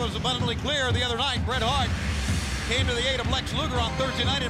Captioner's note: crowd cheering